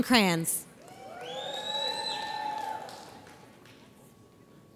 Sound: audience cheers

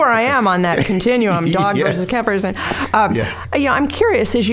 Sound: laughing

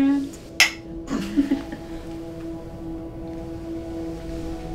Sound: giggling

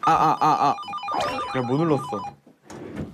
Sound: beep!

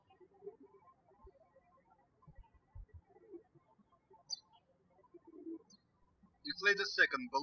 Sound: birds chirping

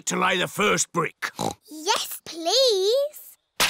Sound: oinks

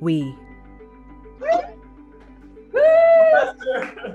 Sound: cheering

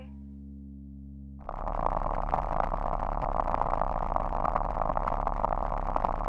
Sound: static Noise

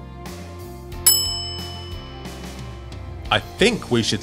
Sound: bell dings

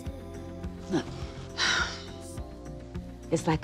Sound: sighs

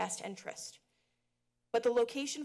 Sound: pause

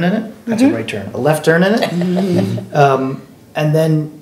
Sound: laughing

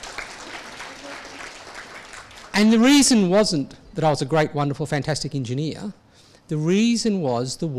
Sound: audience applause

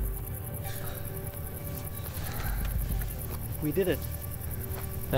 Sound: both panting

